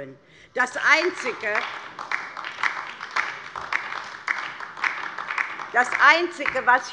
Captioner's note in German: Beifall DIE LINKE